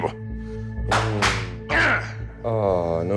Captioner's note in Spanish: Palmadas; Exclamación